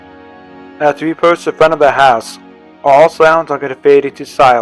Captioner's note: voiceover